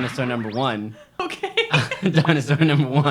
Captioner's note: laughing